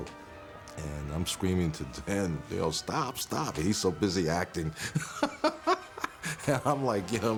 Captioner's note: laughs